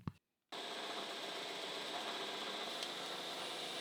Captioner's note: tool humming